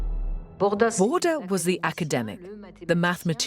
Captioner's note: voiceover